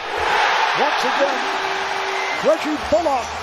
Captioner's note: crowd cheers